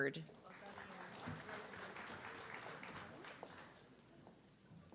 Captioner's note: audience clapping